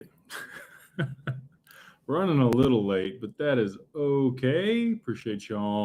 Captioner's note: laughter